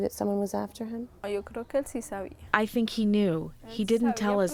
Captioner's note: through translator